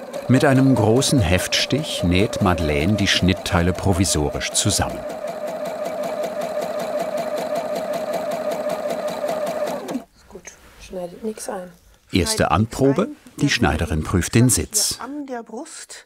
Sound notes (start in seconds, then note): 5.5 rattling of the sewing machine